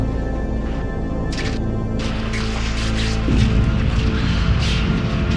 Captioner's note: radio static crackles